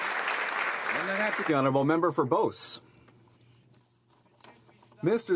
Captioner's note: some Applause